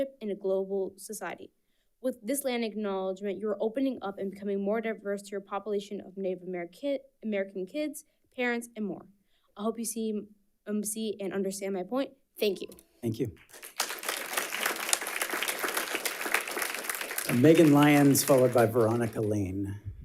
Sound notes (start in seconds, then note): 13.4 audience applauds